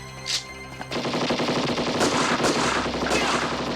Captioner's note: guns firing